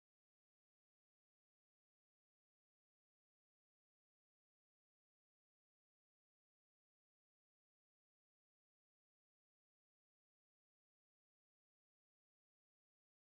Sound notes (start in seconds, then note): none